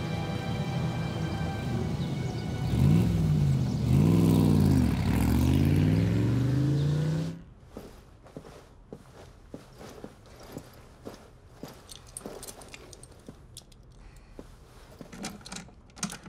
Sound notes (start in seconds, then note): 2.6 car sounds